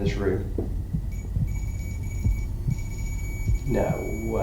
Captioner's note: beeping noise